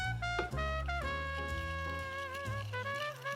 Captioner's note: whisking